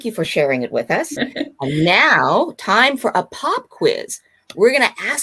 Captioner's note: laughing